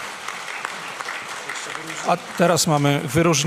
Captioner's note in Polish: oklaski